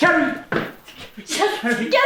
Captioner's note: Victor mumbles